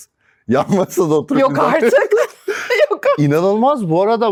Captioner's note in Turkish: kahkaha